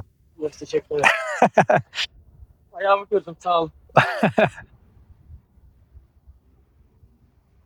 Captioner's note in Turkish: kahkaha